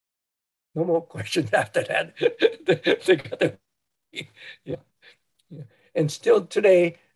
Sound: laughs

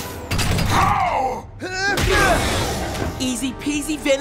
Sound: grunts

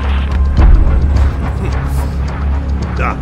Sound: ominous laugh

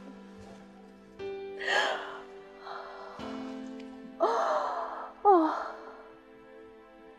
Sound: sobbing

